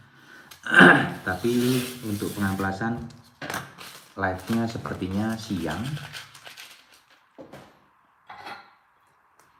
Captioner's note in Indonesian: berdehem